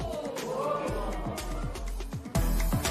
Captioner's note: spectators ohh